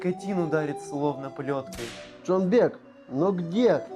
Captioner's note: sound of sticky tape; sound of whipping